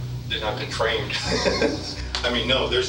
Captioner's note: laughing